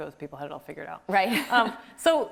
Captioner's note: laughs